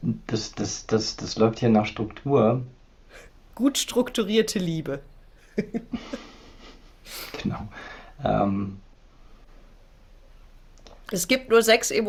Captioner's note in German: gelächter; schnauben